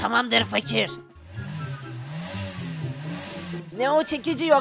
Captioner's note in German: Autogeräusch